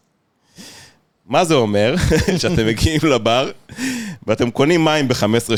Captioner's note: laughs